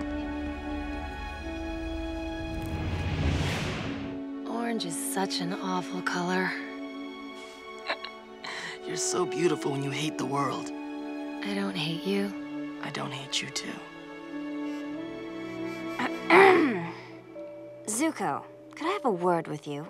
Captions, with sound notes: Orange is such an awful color. [chuckles] You're so beautiful when you hate the world. I don't hate you. I don't hate you too. [clearing throat] Zuko, could have a word with you?